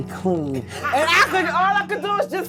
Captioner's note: laughing